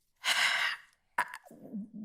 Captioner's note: sighs